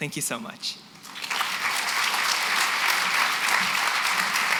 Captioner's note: applause